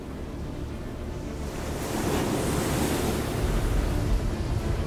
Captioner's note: suspenseful music; waves crashing